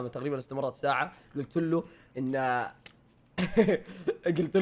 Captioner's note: laughs